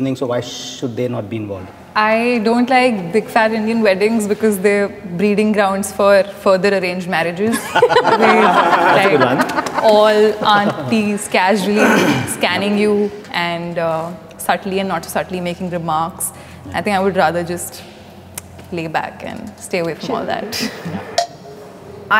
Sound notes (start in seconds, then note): 7.5 everyone laughing